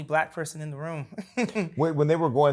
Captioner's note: laughs